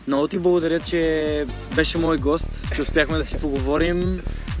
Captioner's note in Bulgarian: се засмива